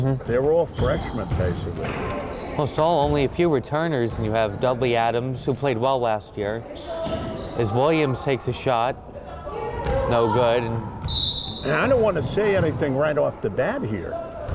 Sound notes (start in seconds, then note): 11.0 whistle blowing